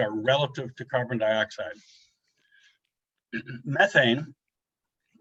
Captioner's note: clears throat